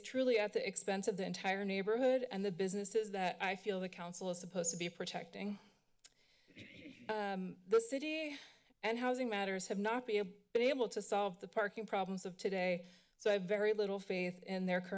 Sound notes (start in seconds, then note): 6.5 clears throat